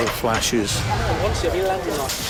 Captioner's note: indistinct chatter